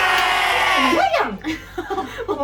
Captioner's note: laughs